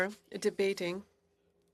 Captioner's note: speaking in French